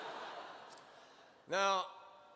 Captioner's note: laughter